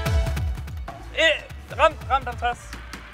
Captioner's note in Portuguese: none